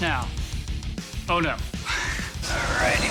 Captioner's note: chuckling